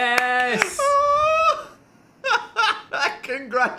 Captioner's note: laughing